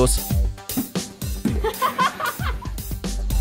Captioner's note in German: Gelächter